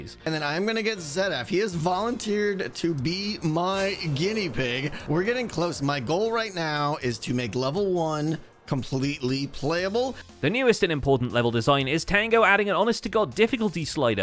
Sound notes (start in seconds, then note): none